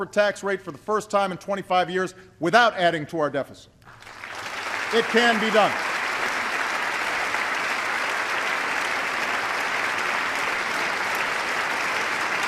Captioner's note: applause